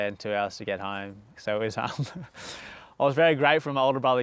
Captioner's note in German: lacht